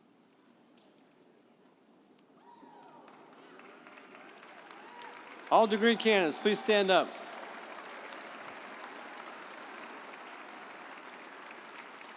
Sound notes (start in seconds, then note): 3.4 audience applauding and cheering; 8.3 audience applauding